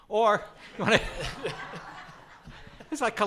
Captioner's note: audience laughs